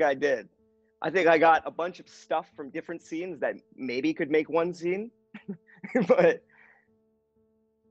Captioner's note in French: rire